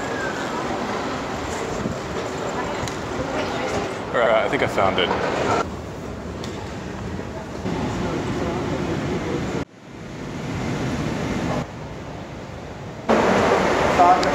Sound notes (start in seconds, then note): 0.2 airport sounds; 7.7 escalator running; 9.8 air whooshing